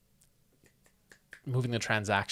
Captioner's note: snaps fingers